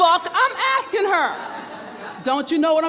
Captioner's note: murmurs